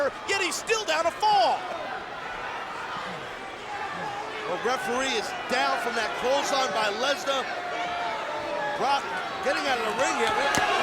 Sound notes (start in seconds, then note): 3.2 audience chattering